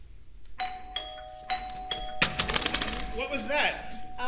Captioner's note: doorbell